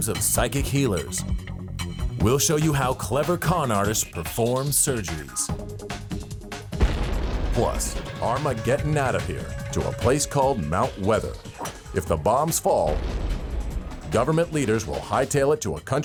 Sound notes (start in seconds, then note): 12.8 explosion booms